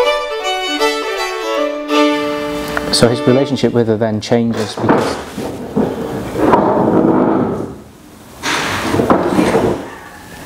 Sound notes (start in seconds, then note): 4.3 noise of chairs being dragged across floor